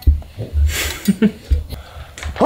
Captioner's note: giggles